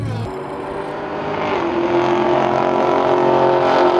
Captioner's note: engine revving